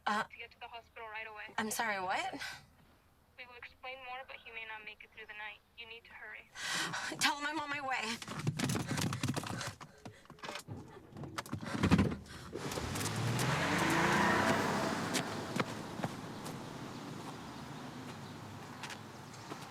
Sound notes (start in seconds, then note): 12.0 car engine starts; 12.2 tires screeching